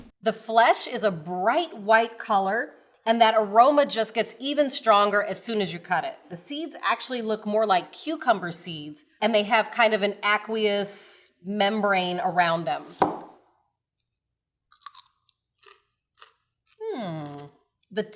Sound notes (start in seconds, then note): 0.0 knife chops; 12.8 knife chops; 14.7 melon crunches